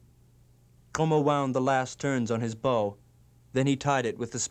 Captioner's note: non-english speech